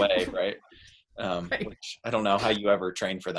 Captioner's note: laughs